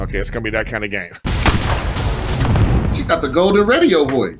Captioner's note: bullet firing